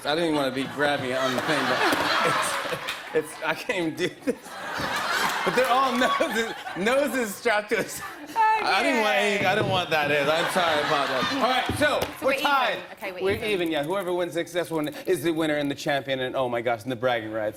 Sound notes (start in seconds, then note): 1.9 laughter; 4.8 laughter